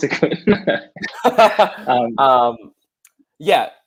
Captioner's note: laughing